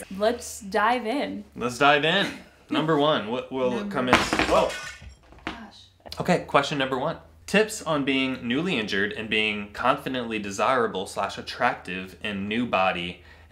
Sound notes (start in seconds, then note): 4.1 object crashing